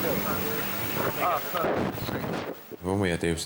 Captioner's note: wind drowns out speaker; wind whooshing